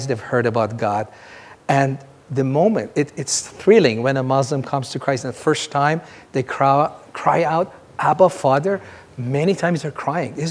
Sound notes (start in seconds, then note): none